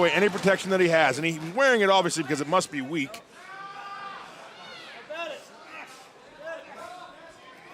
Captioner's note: crowd chatter